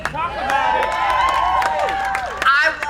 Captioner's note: crowd cheering